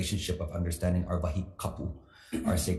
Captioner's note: speaks foreign language